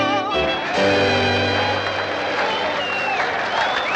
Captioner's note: cheers and applause